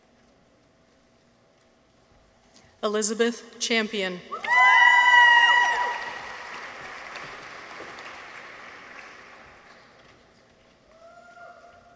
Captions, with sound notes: Elisabeth Champion. -(people cheer) -(audience applauds)